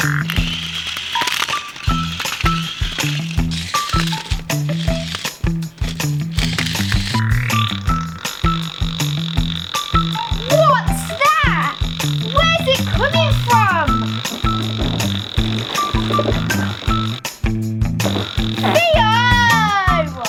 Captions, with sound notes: (FARTS) WHATS THAT? Where's it coming from? (FARTS) THEOOO!!!